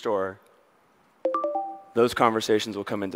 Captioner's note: notification dings